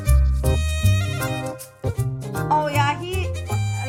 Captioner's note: none